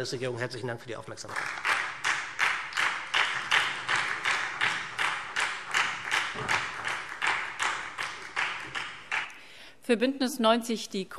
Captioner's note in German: Beifall SPD